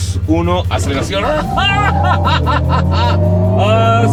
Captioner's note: laughter